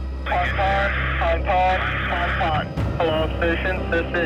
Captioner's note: muffled radio chatter; man On Radio